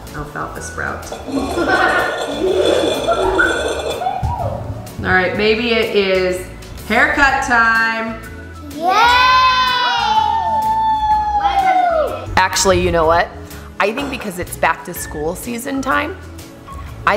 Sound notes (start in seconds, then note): 1.3 kids laugh; 9.0 cheering